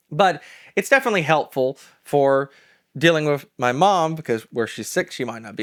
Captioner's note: none